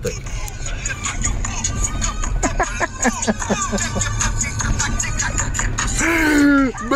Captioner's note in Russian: смех